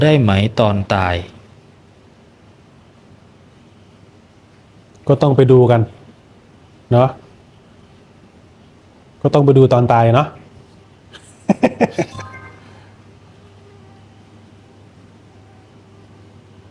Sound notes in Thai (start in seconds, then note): 11.2 เสียงหัวเราะ